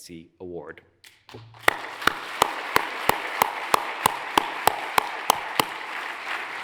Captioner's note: hands clapping; audience applauds